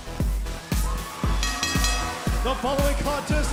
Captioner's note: bell ringing